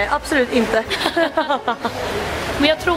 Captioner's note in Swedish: Skratt